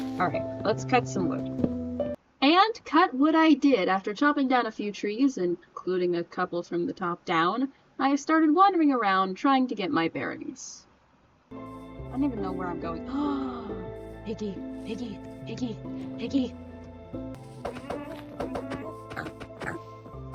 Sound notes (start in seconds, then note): 13.2 gaaaaaaaaaaaaaaasp